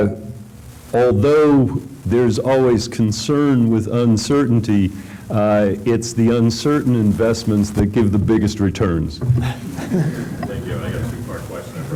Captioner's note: laughter